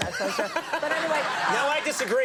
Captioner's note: laughter